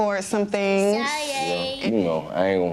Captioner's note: babbling